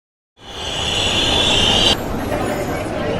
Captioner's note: train Noises